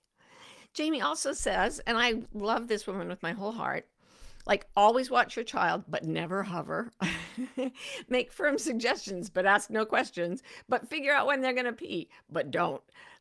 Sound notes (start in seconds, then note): 7.4 laughs